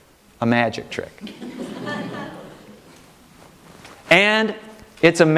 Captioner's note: audience laughing